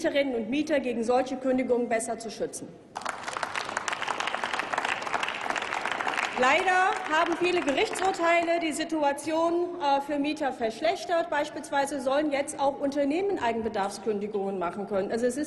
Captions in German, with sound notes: Mieterinnen und Mieter vor solchen Kündigungen besser zu schützen. (Applaus) Leider haben viele Gerichtsurteile die Situation für Mieter verschlechtert. Beispielsweise sollen jetzt auch Unternehmen Eigenbedarfskündigungen